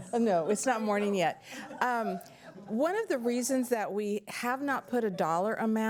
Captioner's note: laughter